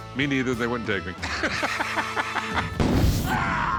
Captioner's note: laughs